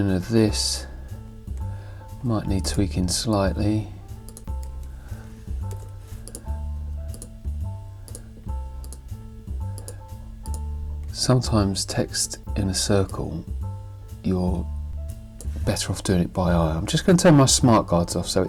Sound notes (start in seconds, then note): 5.6 mouse clicking